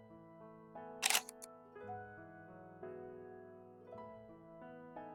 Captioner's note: click